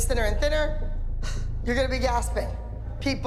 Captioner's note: gasps